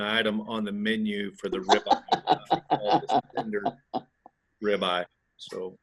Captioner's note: speaks faintly